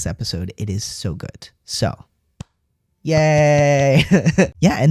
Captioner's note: laugh